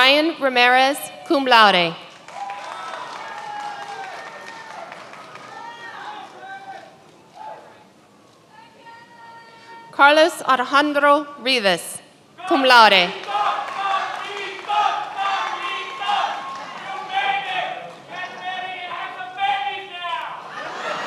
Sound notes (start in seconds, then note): 2.0 many applauding; 14.7 many applauding; 17.5 man speaking in foreign language